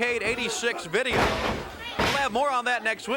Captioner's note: body thudding